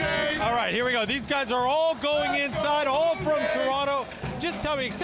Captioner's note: cheering